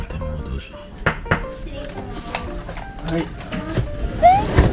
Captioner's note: knock knock knock